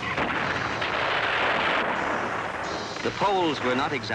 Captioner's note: heavy artillery blasting